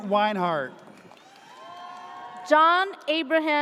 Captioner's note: audience cheers